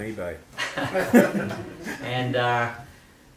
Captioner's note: laughter